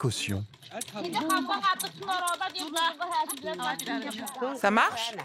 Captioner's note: foreign spoken audio